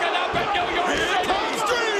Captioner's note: crowd cheering